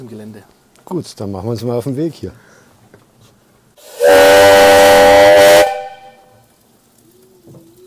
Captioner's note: steam whistle